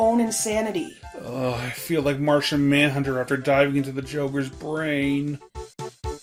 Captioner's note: pained